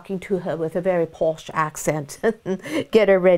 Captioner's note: woman chuckles